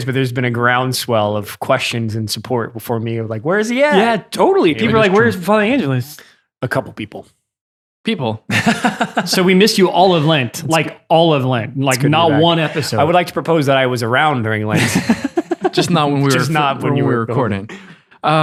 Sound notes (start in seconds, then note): 8.5 laughs; 14.7 laughing